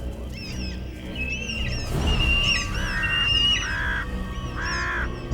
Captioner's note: birds angrily squawking